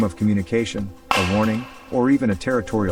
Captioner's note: knock whacks